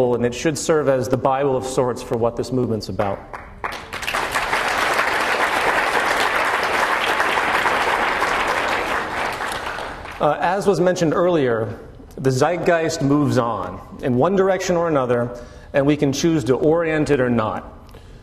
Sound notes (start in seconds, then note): 3.2 applause